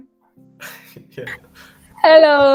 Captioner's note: laughs